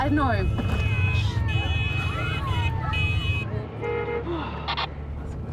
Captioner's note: car horns beep; sighs